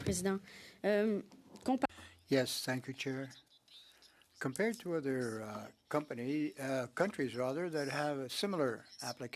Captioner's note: speaking French